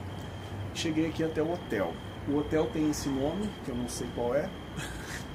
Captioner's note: laugh